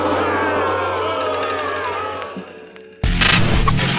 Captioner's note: crowd boos